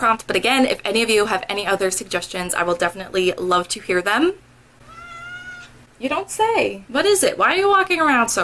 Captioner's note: meow